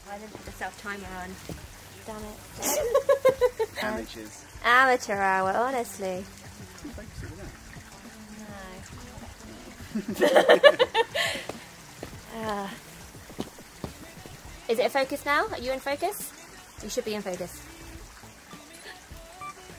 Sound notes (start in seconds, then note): 2.5 laughs; 9.7 laughs